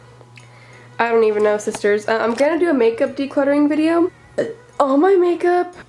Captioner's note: burp